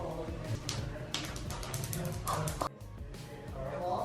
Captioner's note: tapping